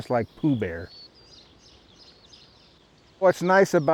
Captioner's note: birds chirping and chittering